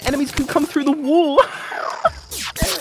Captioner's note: laughs